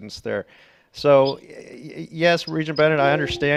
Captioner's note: computer tone dings